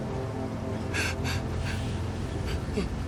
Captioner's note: panicked breathing